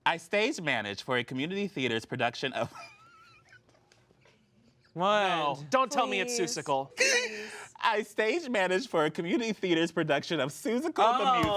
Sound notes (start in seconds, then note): 3.7 laughs